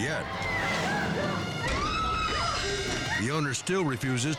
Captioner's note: staff member screaming